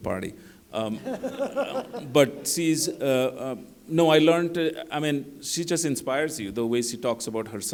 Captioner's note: laughter